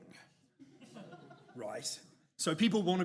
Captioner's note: audience chuckles